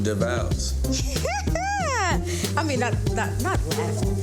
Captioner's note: laughs